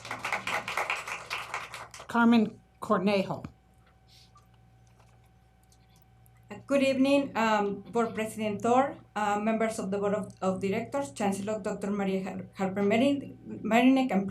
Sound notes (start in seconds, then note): 3.0 applause